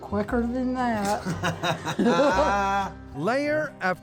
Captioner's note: laughing